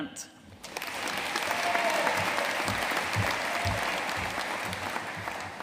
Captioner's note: audience cheering and applauding